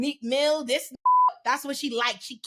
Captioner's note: beep